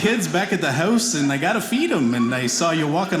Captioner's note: none